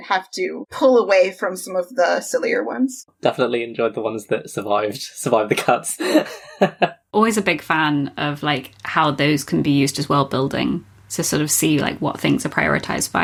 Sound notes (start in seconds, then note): 5.2 laughs